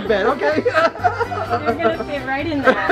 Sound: laughter

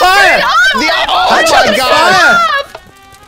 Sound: more panicked screaming

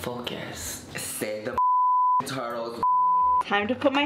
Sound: beep

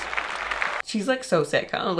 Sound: audience clapping

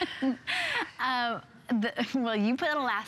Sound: laughter

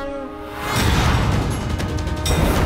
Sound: conch blows

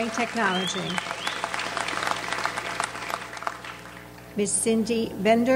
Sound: audience applauds

